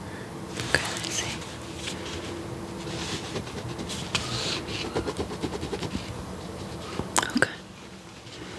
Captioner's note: writing